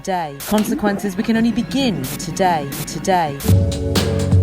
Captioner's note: glitch